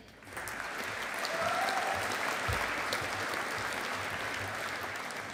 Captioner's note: audience applauding